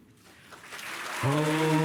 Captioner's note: applause